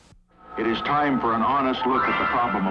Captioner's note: voiceover